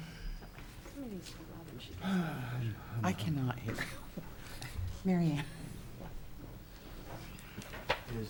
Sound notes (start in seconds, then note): 2.0 sighs; 5.2 laughs